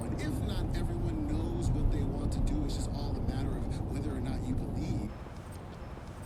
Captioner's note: radio chatter